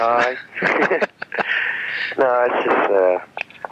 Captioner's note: laughing